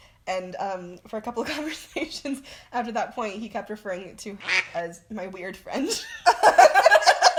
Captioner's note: quack